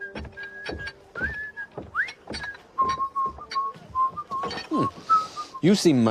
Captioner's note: whistling